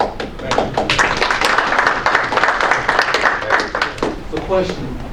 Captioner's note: applause